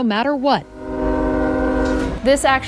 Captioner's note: train horn blaring